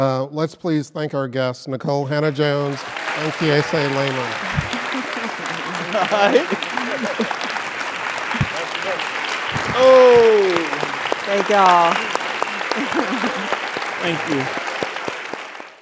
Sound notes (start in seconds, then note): 4.3 applause; 4.3 laugh